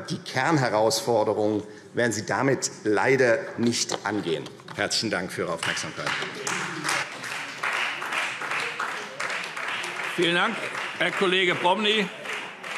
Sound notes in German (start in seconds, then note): 5.6 Beifall